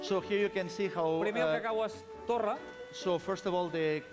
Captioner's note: non-english speech